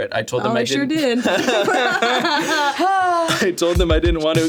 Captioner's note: all laughing